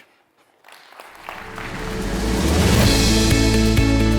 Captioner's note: audience applauding; upbeat music